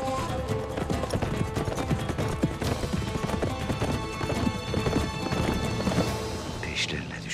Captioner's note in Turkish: At nalı sesleri